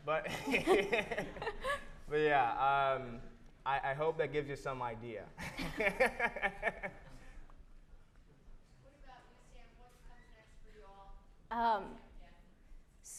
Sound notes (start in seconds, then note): 0.2 laughs; 0.2 chuckles; 5.4 laughs; 5.4 chuckles